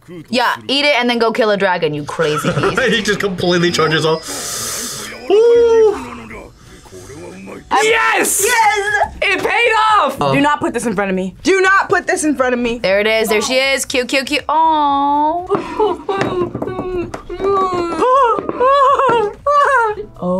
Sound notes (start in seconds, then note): 2.1 laughs